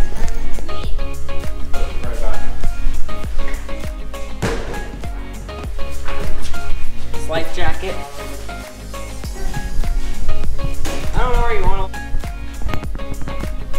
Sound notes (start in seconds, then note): 0.1 upbeat music; 4.4 thudding; 5.7 upbeat music; 10.5 upbeat music